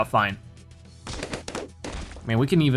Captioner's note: balloons popping